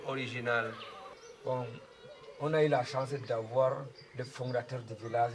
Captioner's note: in french